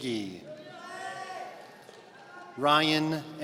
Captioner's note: audience cheering